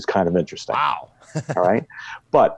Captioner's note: laughs